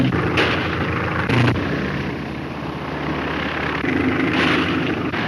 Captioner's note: airplane engine roaring; gunshot; gunshot; airplane engine roaring